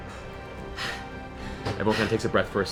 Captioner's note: pants